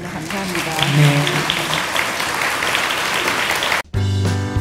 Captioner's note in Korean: 청중 박수